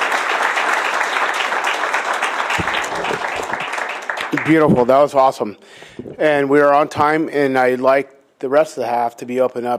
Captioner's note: applause